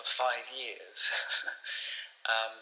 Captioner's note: chuckles